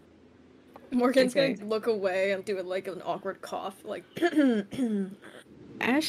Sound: cough

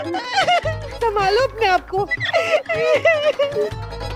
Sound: cries

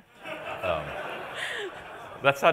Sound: laughter

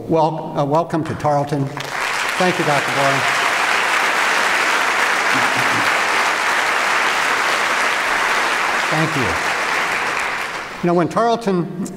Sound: applause

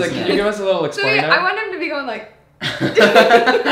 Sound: laughs

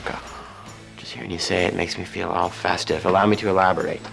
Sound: gasps

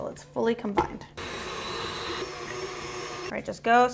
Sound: stand mixer whirring

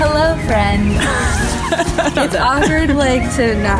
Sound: laughing

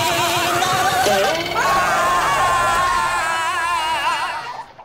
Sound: screaming

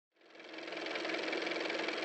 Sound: car motor

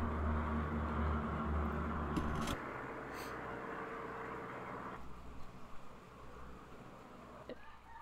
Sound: plane in background; rooster crows

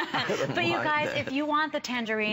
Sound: laughter

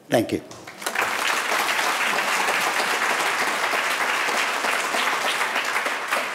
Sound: audience applauding

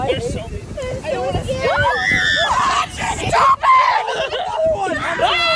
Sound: everyone talking and yelling

